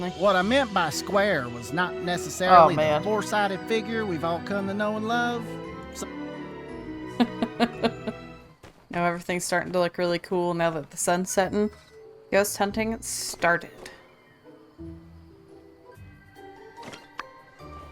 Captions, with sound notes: See what I meant by square was not necessarily a four-sided figure we've all come to know and love- *laughs* Now everything's starting to look really cool now that the sun's setting. Ghost hunting started.